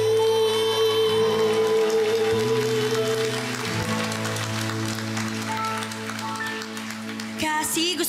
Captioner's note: applause, cheering